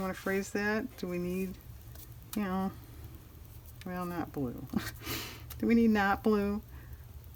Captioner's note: laughs